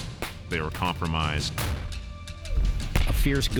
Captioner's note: gunfire